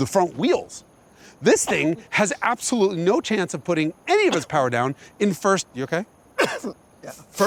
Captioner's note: coughing again